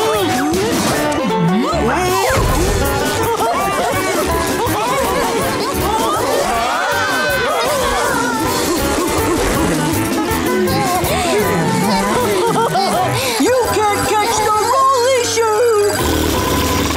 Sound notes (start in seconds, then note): 2.5 laughing; 10.4 panting; 11.7 laughing; 15.7 blowing raspberry